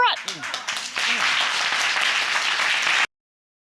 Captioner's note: audience applauds